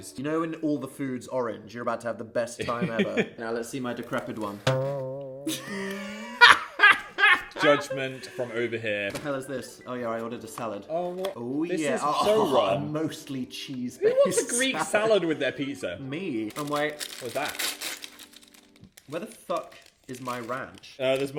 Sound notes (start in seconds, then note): 2.6 chuckling; 5.4 laughing; 16.4 paper ripping